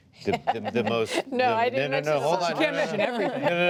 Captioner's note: chuckles